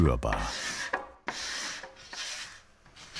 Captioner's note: gentle sanding